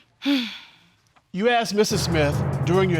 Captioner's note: sighs